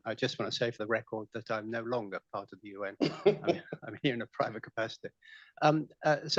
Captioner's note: laughter